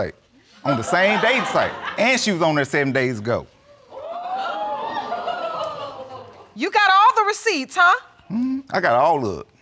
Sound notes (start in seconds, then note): 0.7 audience laughing; 3.8 audience exclaiming